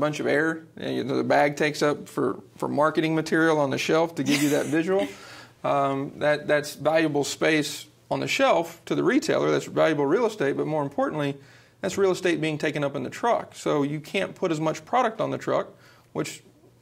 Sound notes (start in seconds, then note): 4.2 chuckling